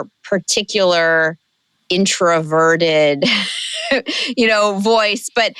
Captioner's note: chuckle